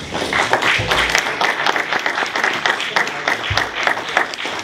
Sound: applause

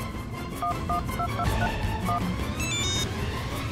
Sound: phone beeping

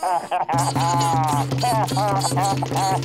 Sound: muffled laughing

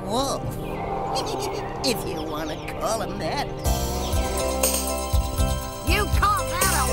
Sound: chuckling

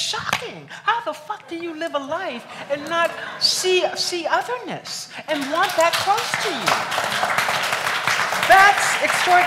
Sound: applauds

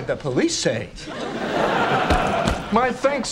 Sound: audience laughing

